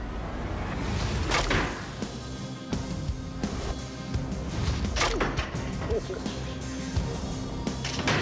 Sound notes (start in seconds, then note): 4.6 clank